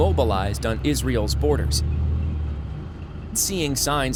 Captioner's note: tank sounds